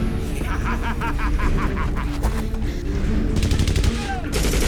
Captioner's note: laughs evilly; dramatic music